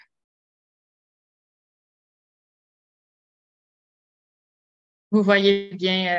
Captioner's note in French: silence